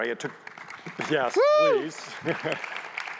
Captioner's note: audience applauding